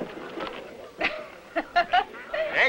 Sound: laughter

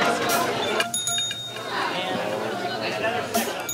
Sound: ding; dinging

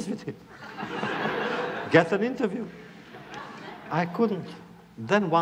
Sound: laughter

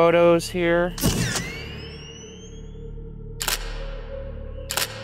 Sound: camera shuttering

